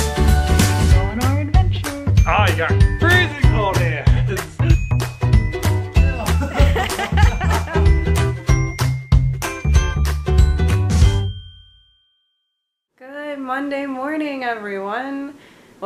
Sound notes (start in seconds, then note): 6.1 laugh